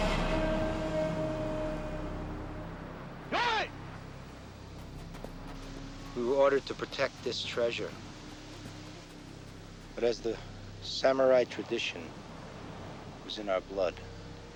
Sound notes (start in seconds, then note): 0.1 dramatic music; 3.5 shouting in foreign language